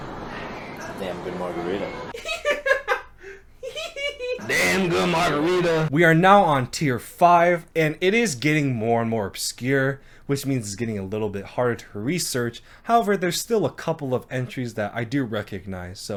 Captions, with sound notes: - Damn good margarita. (laughing) - Damn good margarita. We are now on tier five and it is getting more and more obscure, which means it's getting a little bit harder to research. However, there's still a couple of entries that I do recognize